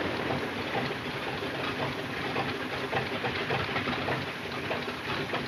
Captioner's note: plane engine sputters